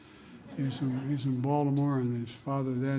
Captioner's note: laughter